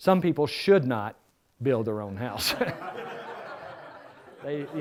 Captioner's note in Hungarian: Nevetés